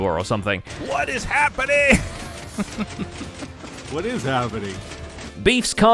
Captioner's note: chuckles